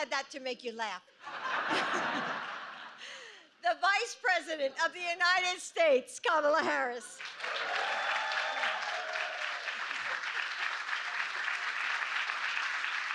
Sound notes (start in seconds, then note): 0.0 laughter; 7.1 applause